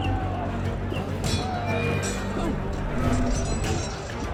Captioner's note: swords clanging